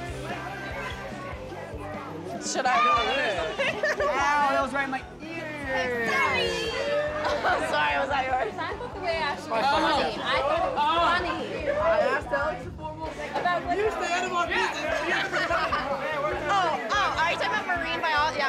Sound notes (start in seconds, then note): 9.1 people chattering; 15.2 laughing